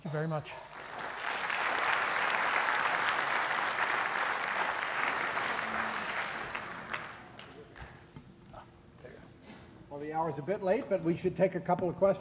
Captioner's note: applause